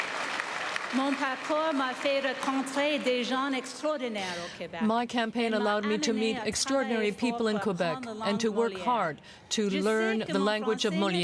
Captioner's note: applause